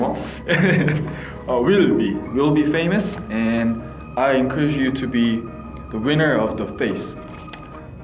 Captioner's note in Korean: 웃음